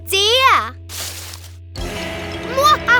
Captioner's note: bushes rustling; dramatic music; evil laughing